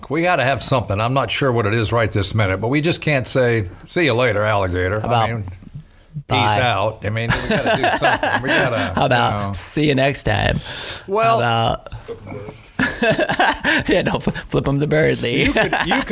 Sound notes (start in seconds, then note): 7.3 laughs; 12.4 laughing